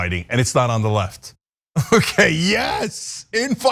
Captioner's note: laugh